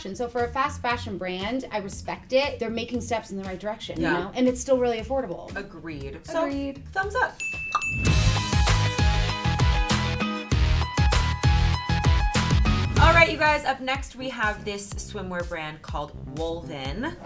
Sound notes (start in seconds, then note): 7.4 bell dings twice; 8.1 rousing pop-rock music